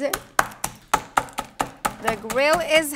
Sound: mallet pounding

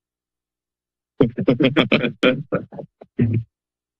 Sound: laughter

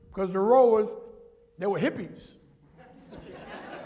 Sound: laughter

